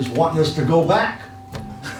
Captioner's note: laughs